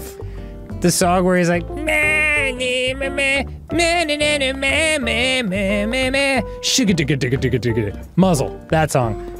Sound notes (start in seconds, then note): 1.6 vocalising